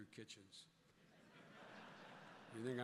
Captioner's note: laughter